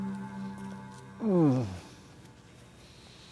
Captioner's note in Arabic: آهات كارتر